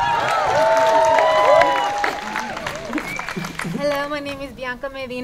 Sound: audience cheering

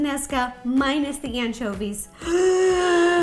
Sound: gasp

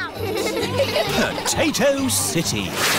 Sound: all giggling

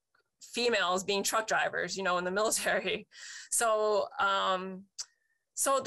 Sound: chuckles

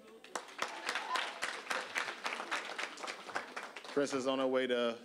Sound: applause

